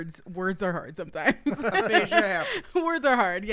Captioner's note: laughing